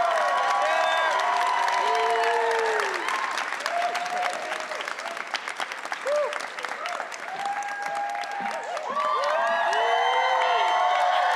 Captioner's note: audience cheering and whistling